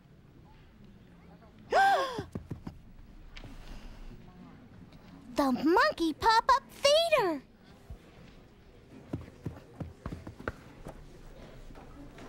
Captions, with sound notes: ( gasps ) The Monkey Pop-Up Theater!